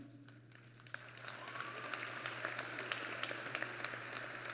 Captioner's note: applause